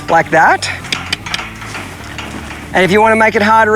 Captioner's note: mouth clicking